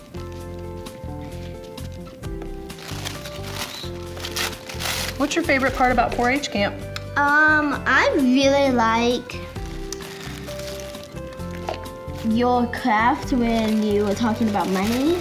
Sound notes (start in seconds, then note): 0.2 soft music; 3.1 rustling paper